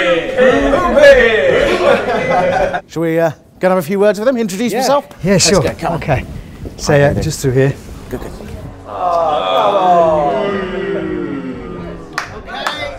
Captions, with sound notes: Poompee! Shall we go and have a few words with them? Introduce myself? - Sure - Let's go, come on - Hi there, how are you doing? - It's just through here Good, good. [GROANING] [BOOING]